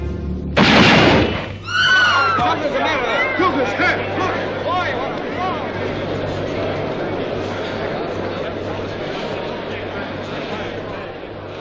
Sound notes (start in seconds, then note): 0.5 shot banging